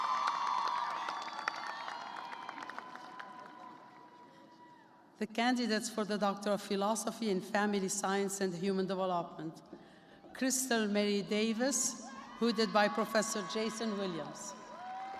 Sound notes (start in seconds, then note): 2.1 cheers and applause